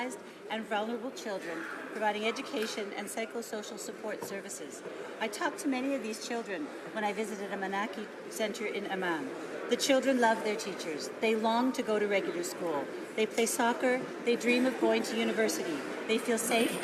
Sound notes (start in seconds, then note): none